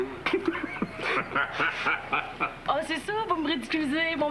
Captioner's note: Rires